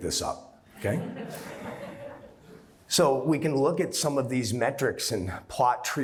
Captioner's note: laughter